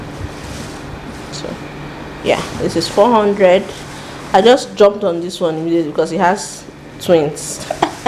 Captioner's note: laughs